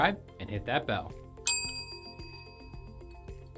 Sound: bell dings

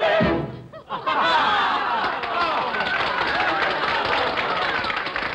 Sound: laughter and applause

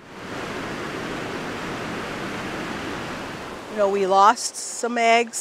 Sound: water rushing

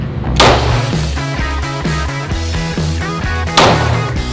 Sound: gun firing

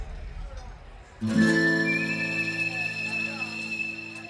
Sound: whistling

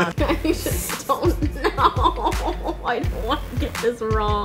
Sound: laughing

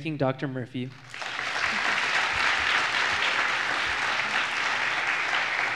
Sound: applause

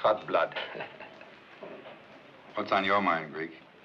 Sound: Thomas chuckles

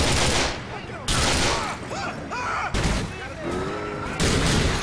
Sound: bullets firing; ambient screaming, panic, sirens; explosion, panic continues

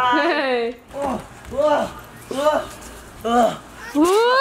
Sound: panting

